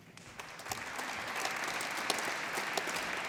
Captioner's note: applause